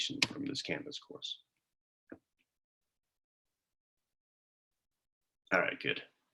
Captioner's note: silence